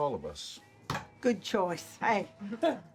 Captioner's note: hits counter